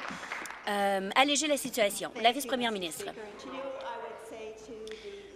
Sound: applause

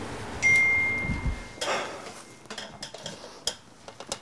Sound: phone dinging

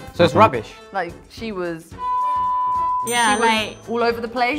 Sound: horn blows; buzzer buzzes; bell dings

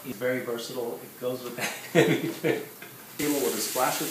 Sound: laughing

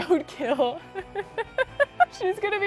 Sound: laughing

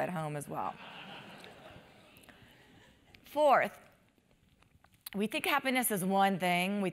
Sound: laugh

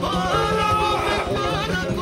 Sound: scream

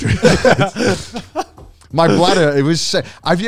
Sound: laughing

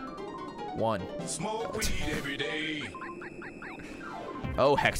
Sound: laughs

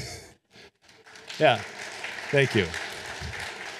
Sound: audience applauding

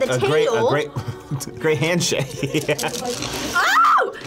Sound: laughs

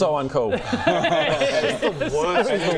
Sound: bullying laughter

